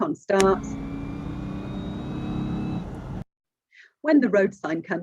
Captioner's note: car motor